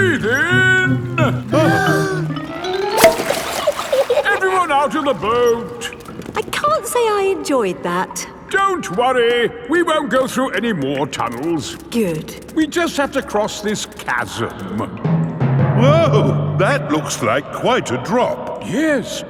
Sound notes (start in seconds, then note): 1.9 breathing in